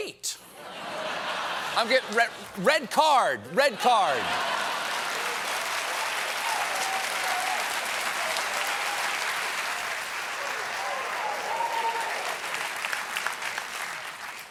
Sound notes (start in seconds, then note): 3.7 laughter; 9.0 applause